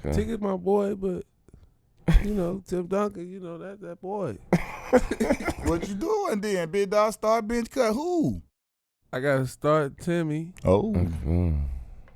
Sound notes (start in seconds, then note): 4.5 laughing